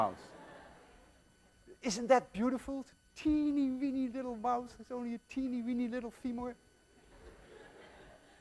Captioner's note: students laugh